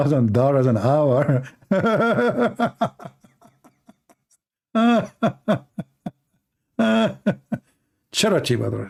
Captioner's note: Ketawa